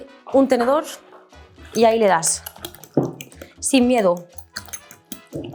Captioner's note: speaks in Spanish